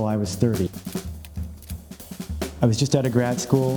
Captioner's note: frames clicking